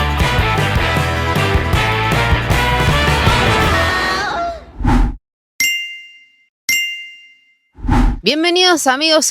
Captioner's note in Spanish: campana